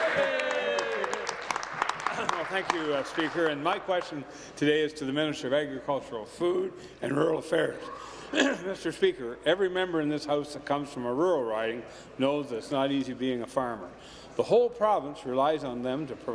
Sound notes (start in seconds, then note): 3.4 applause; 3.9 cheers